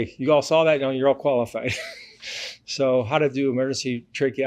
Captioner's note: laughs